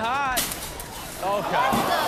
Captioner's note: glass shatters